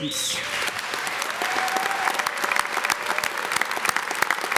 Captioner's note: audience clapping